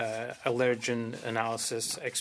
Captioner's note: speaking French